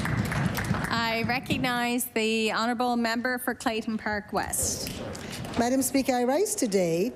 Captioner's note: applause